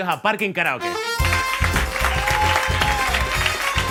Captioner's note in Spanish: Aplausos